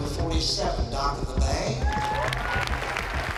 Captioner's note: applause and cheering